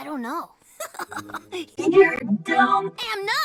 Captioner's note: giggles cutely